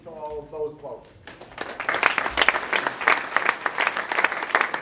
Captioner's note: applause